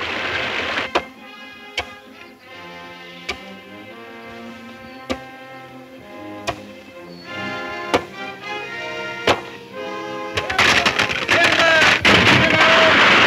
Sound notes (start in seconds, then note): 0.9 axes thudding